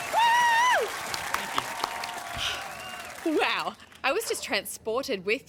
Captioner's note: cheering and applause